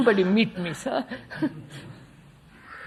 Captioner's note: laughs